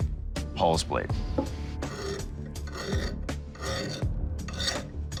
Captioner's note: metal scraping